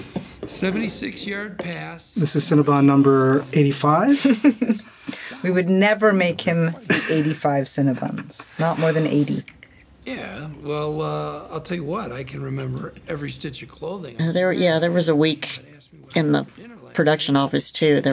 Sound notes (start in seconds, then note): 4.2 laughs